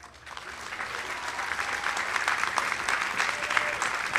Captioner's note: audience applauding